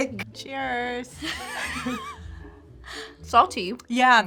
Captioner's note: laughs